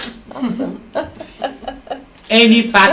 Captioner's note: laughs